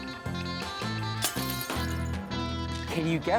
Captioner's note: shatters loudly